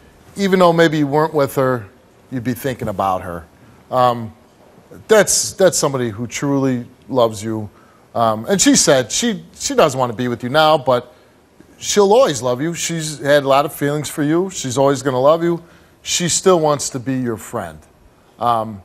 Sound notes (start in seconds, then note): none